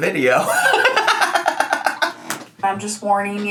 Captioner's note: laughs hysterically